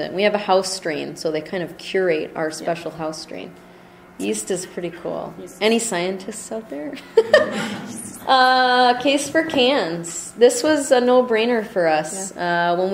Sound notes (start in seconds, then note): 6.9 laughter